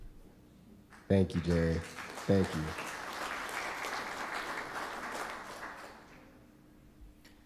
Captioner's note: audience applause